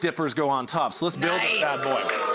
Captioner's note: crowd cheers